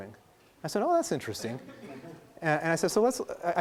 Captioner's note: laughing